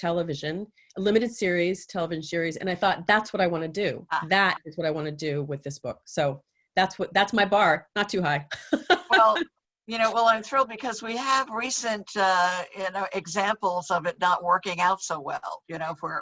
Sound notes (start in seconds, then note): 8.6 laughing